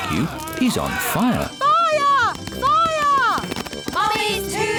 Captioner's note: alarm blares